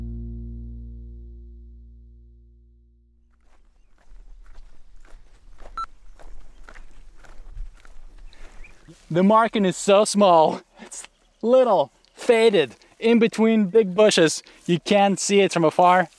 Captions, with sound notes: (footsteps crunching) (beep) Delete Scenes The marking is so small, it's little, faded, in between big bushes, you can't see it from afar,